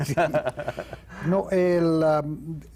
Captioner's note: ríe